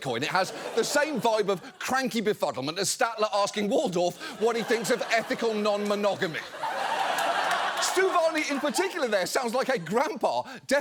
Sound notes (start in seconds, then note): 6.6 audience laughs